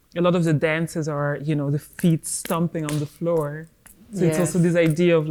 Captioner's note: hand thudding